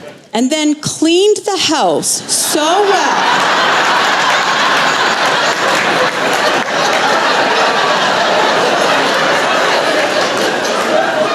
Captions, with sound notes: And then cleaned the house so well, (Laughter)